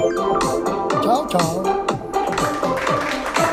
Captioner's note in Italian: Applauso